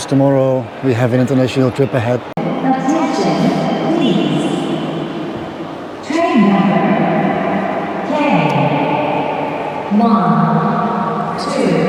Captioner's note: tannoy